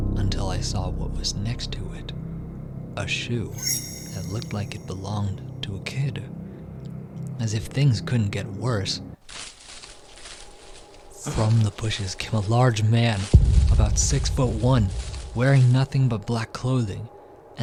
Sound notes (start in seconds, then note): 9.2 sound of rustling bushes and footsteps. Cue Horror sound